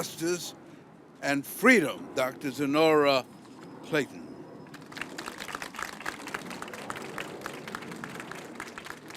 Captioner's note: applause